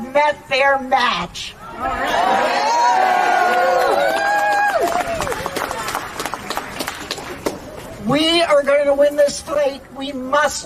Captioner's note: chanting